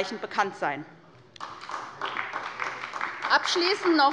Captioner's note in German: Beifall bei Abgeordneten der SPD